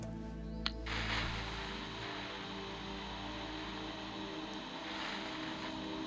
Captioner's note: radio static